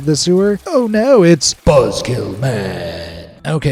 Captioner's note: in a dramatic voice